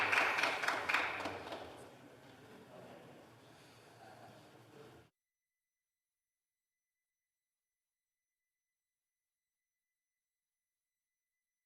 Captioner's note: some Applause